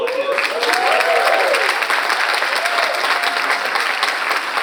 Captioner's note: audience applauds